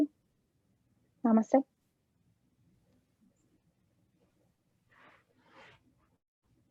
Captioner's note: speaking in foreign language